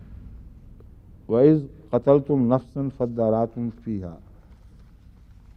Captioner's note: Arabic